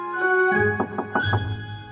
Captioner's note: knock on door